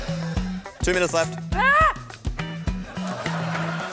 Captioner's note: woman shrieks